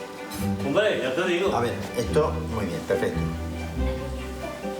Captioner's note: speaking foreign language